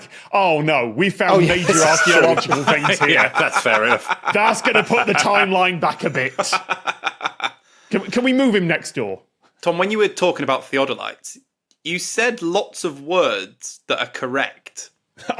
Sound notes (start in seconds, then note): 6.4 laughs